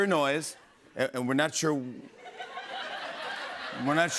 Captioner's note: laughter